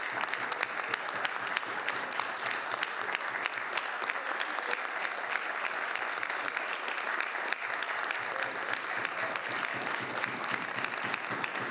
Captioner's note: some Applause